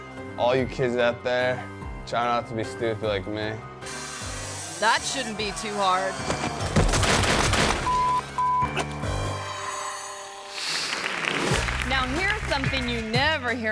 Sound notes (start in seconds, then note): 6.2 dirt bike thuds; 7.8 beep